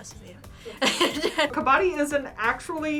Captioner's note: laughs